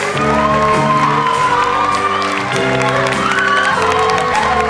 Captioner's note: audience cheers